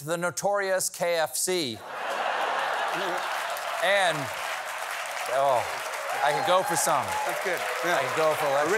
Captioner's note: laughter